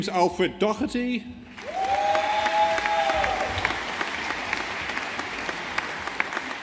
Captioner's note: audience applauding